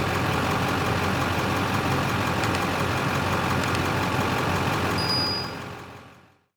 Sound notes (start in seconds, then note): 2.4 click; 4.1 bell Ringing